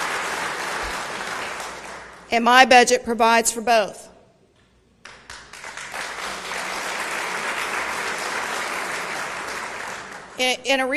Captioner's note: applause